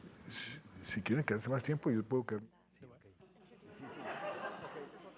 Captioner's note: President Santos speaking in Spanish; audience laughing